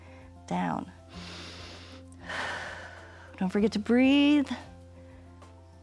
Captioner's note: inhales and exhales